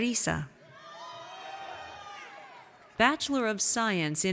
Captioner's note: audience cheers